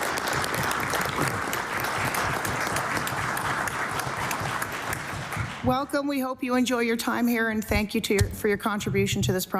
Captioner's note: applause